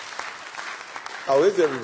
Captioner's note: applause